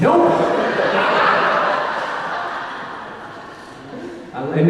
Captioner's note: audience laughing